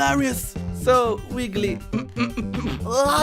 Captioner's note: holds in laugh